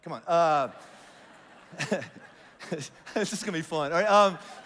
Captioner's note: congregation laughs